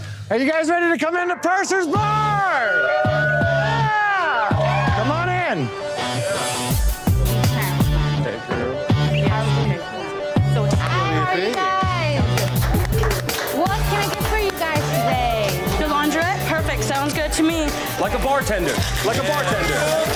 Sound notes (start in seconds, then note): 10.7 chatter